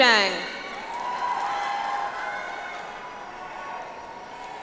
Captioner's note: audience applauds